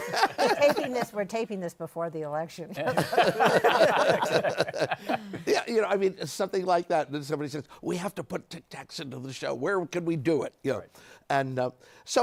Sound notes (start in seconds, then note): 2.8 laughter